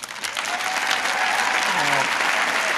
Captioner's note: applause